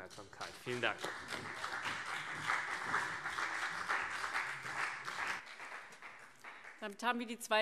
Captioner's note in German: Beifall CDU und BÜNDNIS 90/DIE GRÜNEN